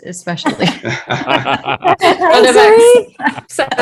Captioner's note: all laughing